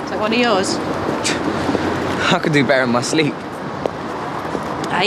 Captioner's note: scoffs